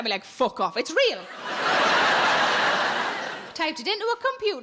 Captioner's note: audience laughs